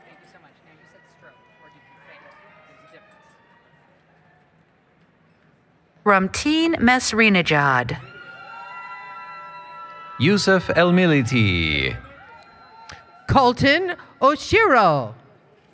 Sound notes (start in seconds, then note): 8.1 applause, Cheering